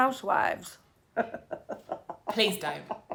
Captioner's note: laugh